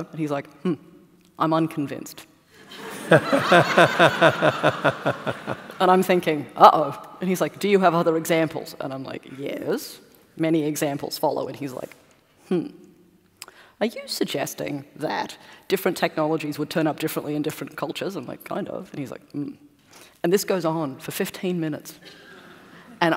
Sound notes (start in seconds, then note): 2.6 laughter